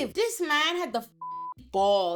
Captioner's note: beep